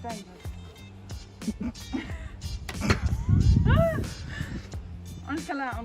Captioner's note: laughs